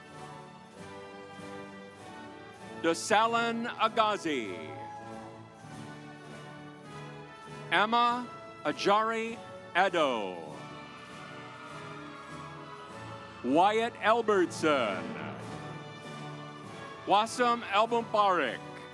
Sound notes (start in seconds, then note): 0.2 stately music; 5.2 stately music; 10.4 audience applauds